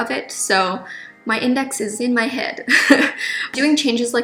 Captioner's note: laughs